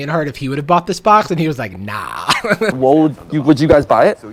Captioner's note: laughs